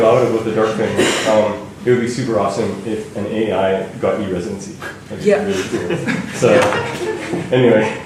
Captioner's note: laughter